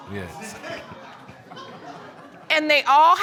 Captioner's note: audience gasps